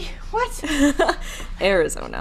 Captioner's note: laughing